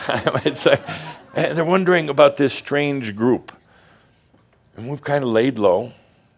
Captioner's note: Adamus chuckles